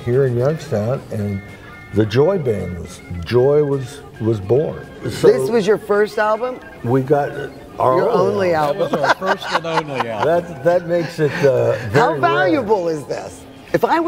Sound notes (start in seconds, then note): 7.9 laughing